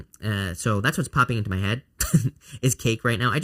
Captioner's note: chuckles